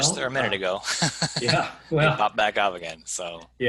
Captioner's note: laughing